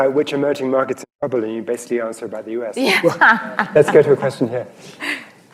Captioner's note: laughter